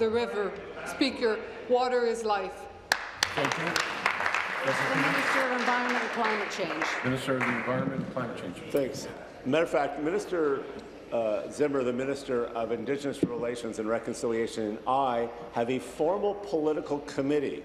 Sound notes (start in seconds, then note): 6.3 applause